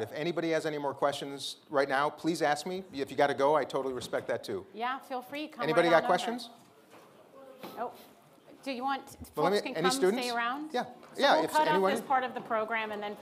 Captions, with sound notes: if anybody has any more questions right now, please ask me. If you got to go, I totally respect that, too. - Yeah, feel free. Come right on over. - Anybody got questions? (group chattering) - Nope? Do you want, folks can come stay around? - Any students? - Yeah, yeah, if anyone- - So we'll cut off this part of the program, and then